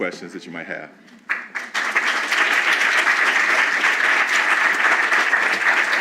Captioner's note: applause